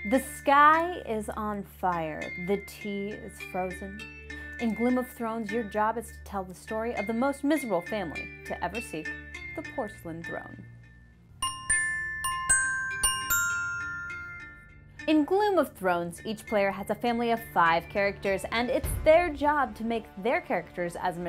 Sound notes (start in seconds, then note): 11.4 pinging